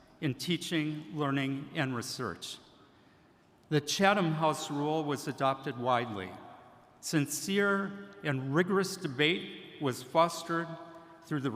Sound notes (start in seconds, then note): none